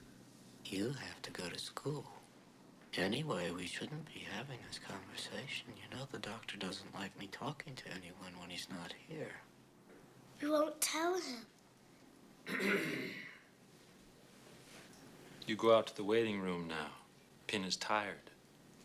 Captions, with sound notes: YOU HAVE TO GO TO SCHOOL. ANYWAY, WE SHOULDN'T BE HAVING THIS CONVERSATION. YOU KNOW THE DOCTOR DOESN'T LIKE ME TALKING TO ANYONE WHEN HE'S NOT HERE. WE WON'T TELL HIM. [ Clears Throat ] YOU GO OUT TO THE WAITING ROOM NOW. PIN IS TIRED.